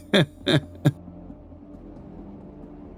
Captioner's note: laughs